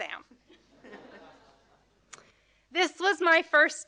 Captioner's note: audience laughing